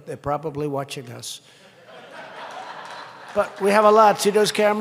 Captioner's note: laughter and applause